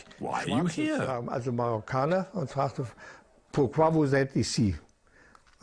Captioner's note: German spoken audio